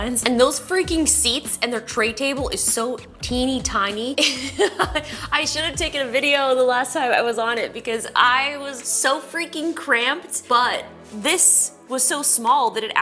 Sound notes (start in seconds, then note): 4.1 laughs